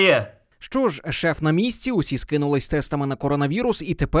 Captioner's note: voiceover